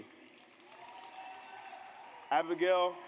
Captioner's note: audience applauds